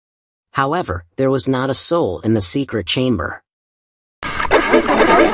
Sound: sound effect

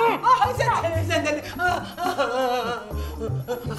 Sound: sobs

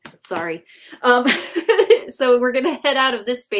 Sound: chuckles

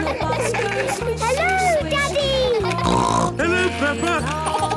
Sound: laughter; snorting; laughter

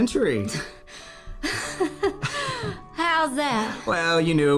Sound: laughs

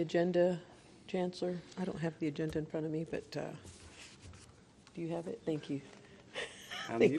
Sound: laughter

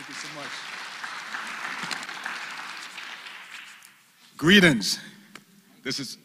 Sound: applause

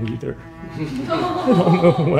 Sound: smosh crew sad-laughing in the background

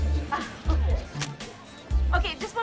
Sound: camera shutter clicks

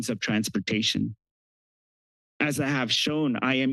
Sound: pause

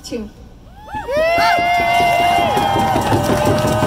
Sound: crowd cheers

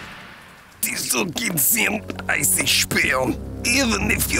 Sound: non-english speech

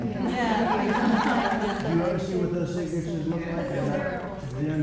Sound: laughter

